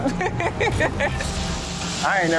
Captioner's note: laughter